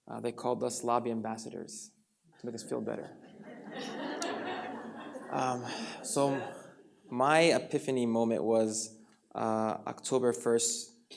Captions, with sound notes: They called us lobby ambassadors to make us feel better. (audience laughs) So, my epiphany moment was October 1st, 2013, at 12:02 p.m.